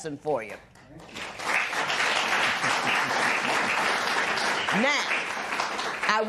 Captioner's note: applause